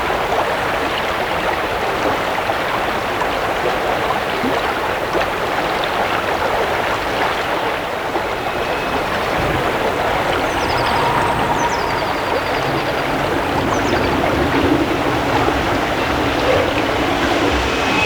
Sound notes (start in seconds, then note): 5.5 running water continues; 10.9 birdsong, running water; 14.4 rushing, groaning sound; 17.8 high-pitched sound; 17.8 running water continues